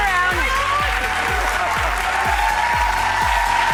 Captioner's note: applause